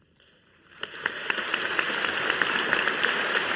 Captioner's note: audience applauding